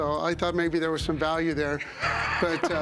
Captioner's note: laughs